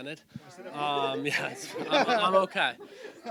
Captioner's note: everyone laughs